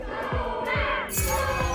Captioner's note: digital chimes